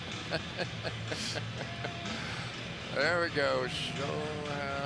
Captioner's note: laughs